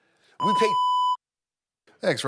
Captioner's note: beep